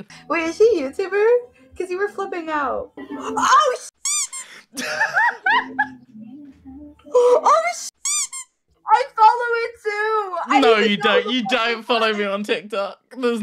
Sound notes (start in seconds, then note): 4.0 squeak; 4.7 laughs; 8.0 squeak